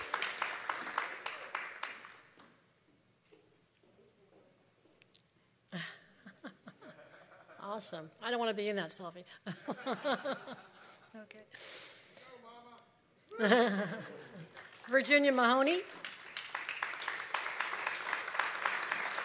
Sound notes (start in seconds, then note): 14.1 applause